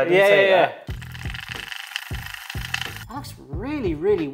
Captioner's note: whisk whirs